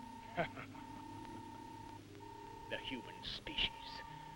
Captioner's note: Krupp laughs